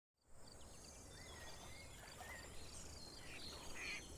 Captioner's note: birds chirping; ducks quacking